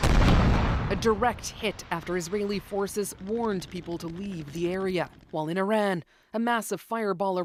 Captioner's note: bombing